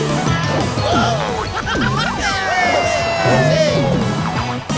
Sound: all cheering and laughing

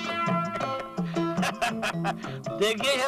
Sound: laughs

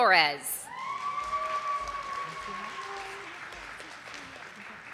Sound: audience applauding

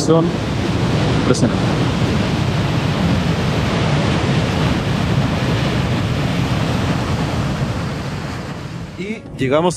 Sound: waterfall sound

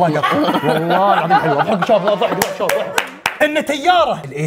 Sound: everyone laughing

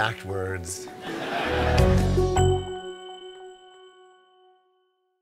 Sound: audience laughs

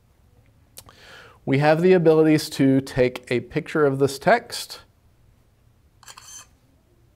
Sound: camera snapshot sound

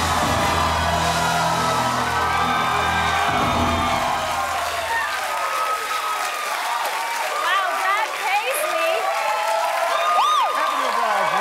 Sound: cheers and applause

